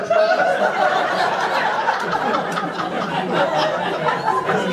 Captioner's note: audience laughter